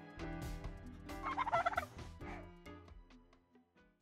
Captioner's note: relaxed music; turkey gobbles